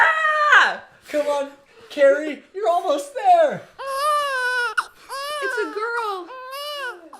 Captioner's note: baby crying